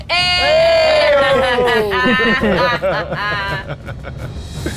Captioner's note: group laughs